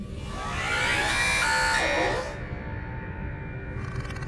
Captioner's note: angry warper sounds